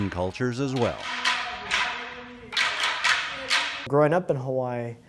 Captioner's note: wood knocking